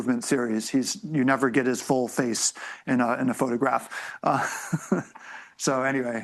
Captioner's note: laughs